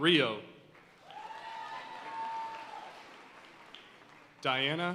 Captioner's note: audience cheering and applauding